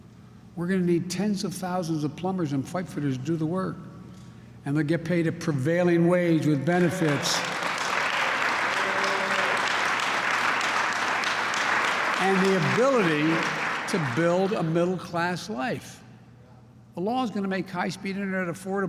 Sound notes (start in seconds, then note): 6.7 applause